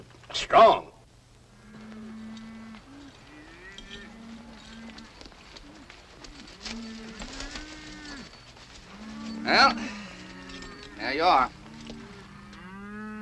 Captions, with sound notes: Strong! [ CATTLE MOOING ] Well. There you are.